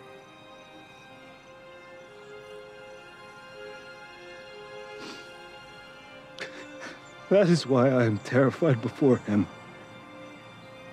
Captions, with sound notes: [Sniffles, sobs] That is why I am terrified before Him.